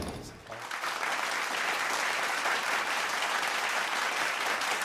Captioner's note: audience applause